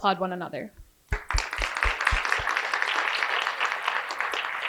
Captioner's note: applause